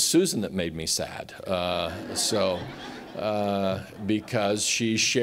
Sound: laughter

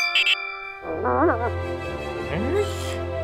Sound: bell rings; dog grunt

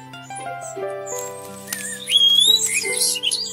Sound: trees snap

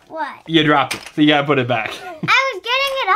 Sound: voiceover

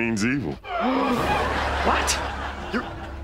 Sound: gasping

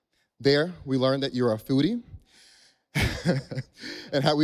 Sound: laughs

